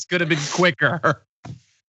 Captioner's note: laugh